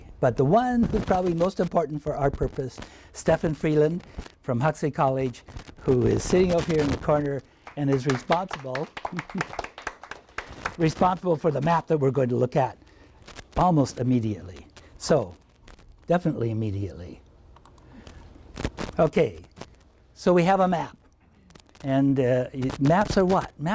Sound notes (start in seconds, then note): 7.5 applauding